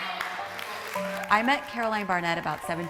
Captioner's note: audience applauding